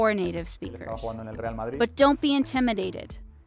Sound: speaking in foreign language

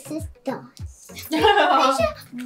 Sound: laughing

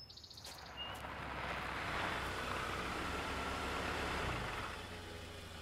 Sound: engine rumbles

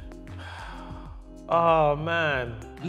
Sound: sighs

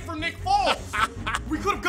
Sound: laughs

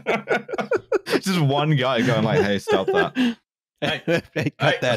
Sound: laughter; laughter

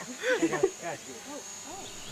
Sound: laughter

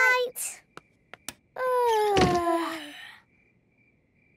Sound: both yawning; light clicks

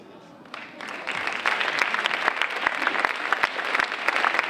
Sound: audience applauding

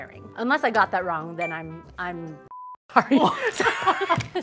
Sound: beep; laughter

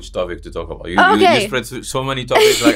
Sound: laughs

